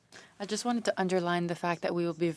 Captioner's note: speaking French